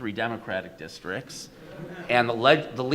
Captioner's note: audience laughs